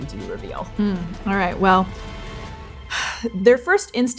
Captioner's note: exhaling